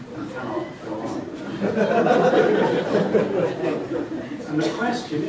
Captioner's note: laughter